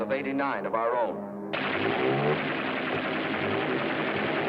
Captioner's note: gunfire